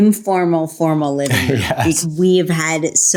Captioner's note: chuckles